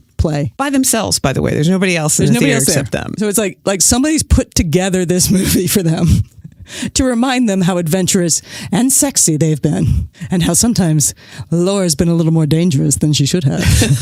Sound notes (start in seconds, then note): 6.2 guffaw; 13.6 laughs